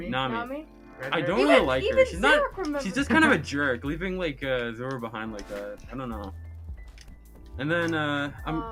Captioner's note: laughing